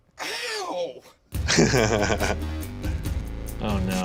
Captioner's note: laughs